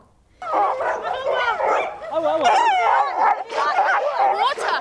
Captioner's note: dogs screeching